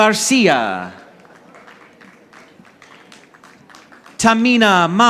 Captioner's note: audience applauding